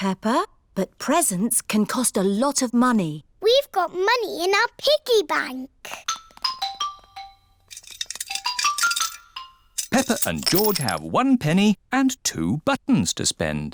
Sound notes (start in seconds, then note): none